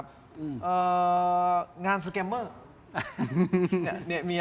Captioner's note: laughter